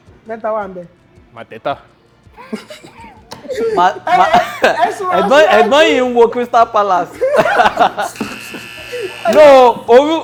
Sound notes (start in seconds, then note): 2.3 laughs; 8.1 buzzer pressed